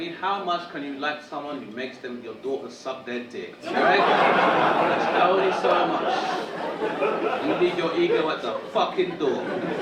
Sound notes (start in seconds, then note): 3.6 audience laughing